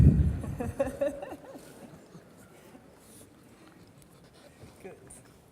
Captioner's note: laughs